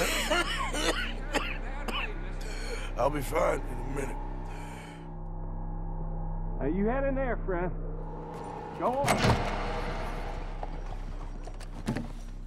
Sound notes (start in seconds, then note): 0.0 coughing